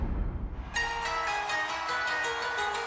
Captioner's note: crowd cheering